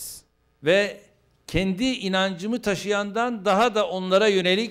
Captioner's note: non-english speech